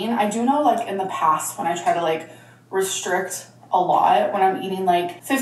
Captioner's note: none